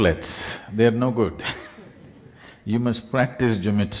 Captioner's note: few Laugh; laughs